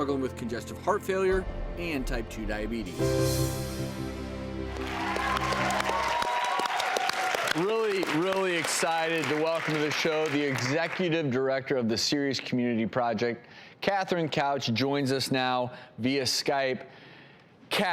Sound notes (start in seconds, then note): 4.6 audience applauds